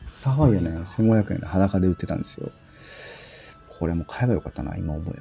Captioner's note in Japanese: 息をのむ音